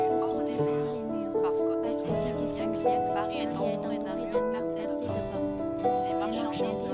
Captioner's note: French